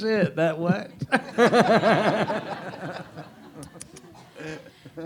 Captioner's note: audience laughs